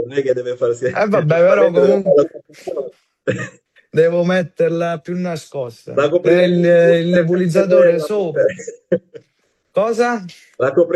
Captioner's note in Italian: risate